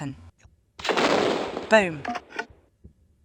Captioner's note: boom